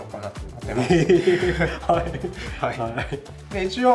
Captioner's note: laughs